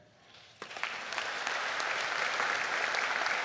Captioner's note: all applaud